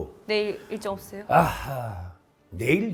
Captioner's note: sigh